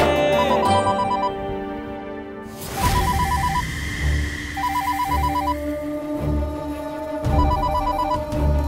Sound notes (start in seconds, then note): 2.8 mobile ringing